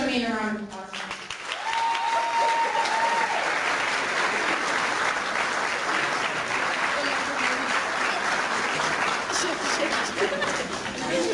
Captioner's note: clapping